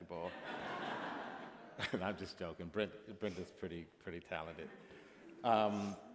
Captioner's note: laughter